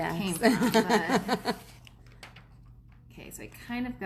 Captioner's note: laughs